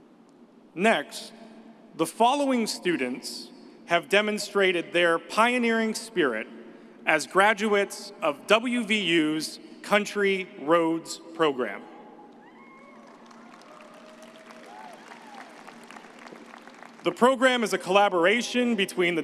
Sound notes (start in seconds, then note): 12.4 audience cheers